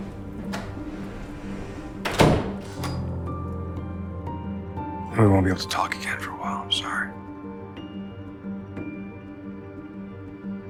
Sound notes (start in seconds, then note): 1.6 the wooden door slams shut